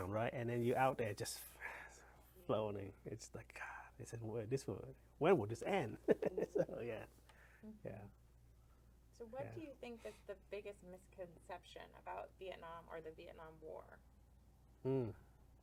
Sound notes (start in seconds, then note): 2.5 sigh; 6.0 laughs